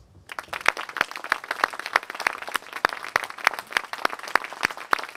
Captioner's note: applause